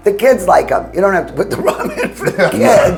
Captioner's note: chuckles